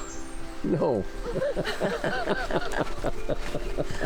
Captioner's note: laughs